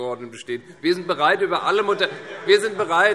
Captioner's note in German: Heiterkeit und Zurufe